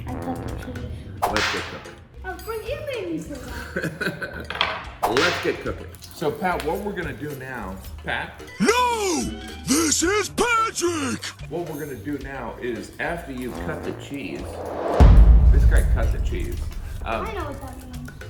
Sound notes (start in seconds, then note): 1.2 whip snapping; 3.5 laughs; 5.0 whip snapping